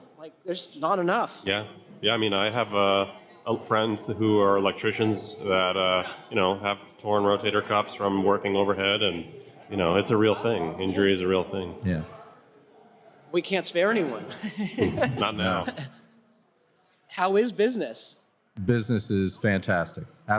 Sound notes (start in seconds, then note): 14.2 laughter